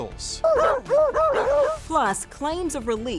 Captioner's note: beagles barking